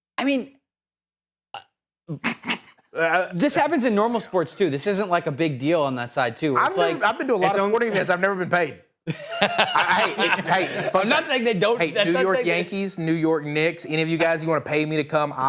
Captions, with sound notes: I mean, this happens in normal sports too. This isn't like a big deal on that side too. I've been to a lot of, what even is, I've never been paid. (laughing) I'm not saying they don't. New York Yankees, New York Knicks. Any of you guys, you wanna pay me to come?